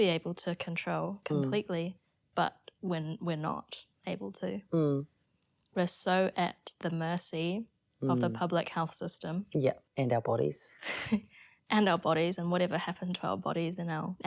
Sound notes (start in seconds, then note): 10.8 chuckles